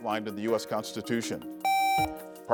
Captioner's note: buzzer beeps